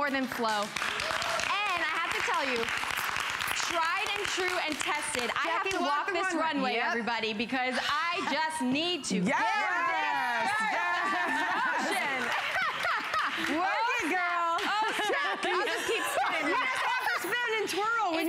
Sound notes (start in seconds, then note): 10.7 laughter; 11.1 applause